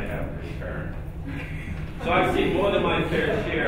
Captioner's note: laughing